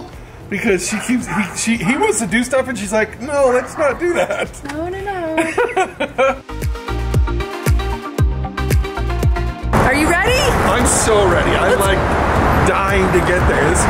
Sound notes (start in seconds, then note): 3.5 laughing; 6.3 upbeat music